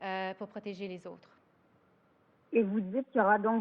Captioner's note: speaks French